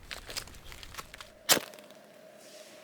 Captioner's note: ferro rod strike